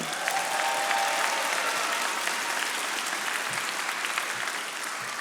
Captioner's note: audience applauding